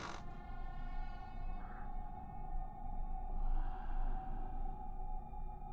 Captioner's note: gentle tense music; monster rasping softly